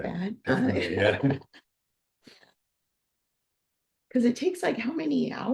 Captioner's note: both chuckling